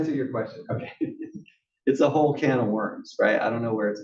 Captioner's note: laugh